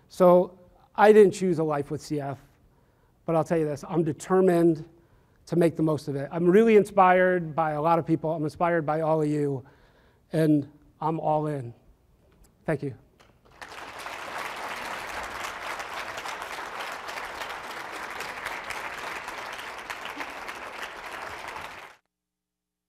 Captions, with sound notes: So I didn't choose a life with CF, but I'll tell you this, I'm determined to make the most of it. I'm really inspired by a lot of people. I'm inspired by all of you, and I'm all in. Thank you. (audience applauds)